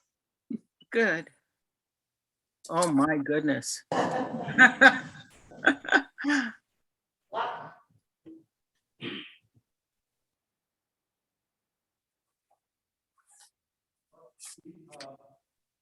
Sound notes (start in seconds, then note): 4.0 chuckling